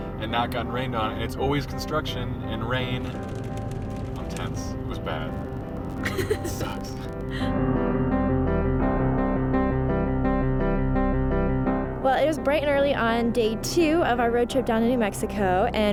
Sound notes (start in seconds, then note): 2.2 raindrops pattering; 7.6 upbeat music